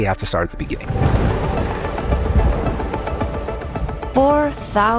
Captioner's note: thunder rumbling